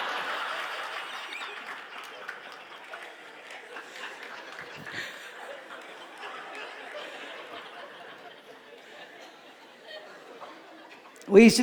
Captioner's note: laughter